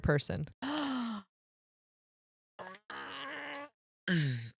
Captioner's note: gasps; groans